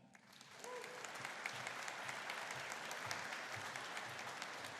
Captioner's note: audience applauding